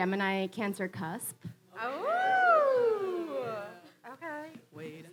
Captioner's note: audience oohs